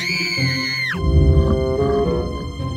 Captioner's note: scream!